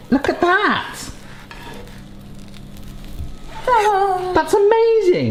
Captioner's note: burrito sizzling